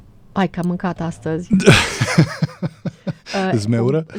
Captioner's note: laughter